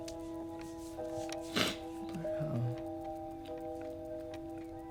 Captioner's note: sniffles